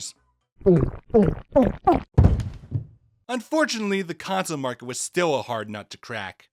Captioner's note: thuds